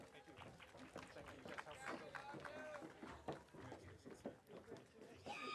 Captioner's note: audience applauding